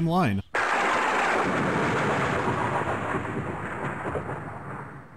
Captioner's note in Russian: драматичный удар грома